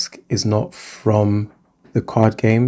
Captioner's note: none